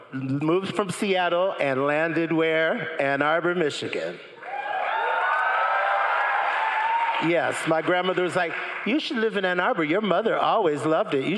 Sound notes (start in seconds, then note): 4.4 crowd cheering and applauding